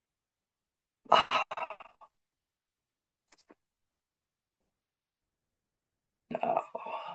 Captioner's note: pause